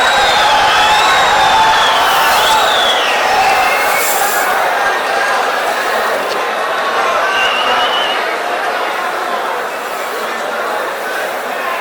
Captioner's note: wild applause and cheering for 22 seconds